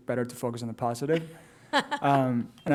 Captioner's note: laughter